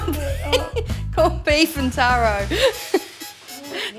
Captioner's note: laughter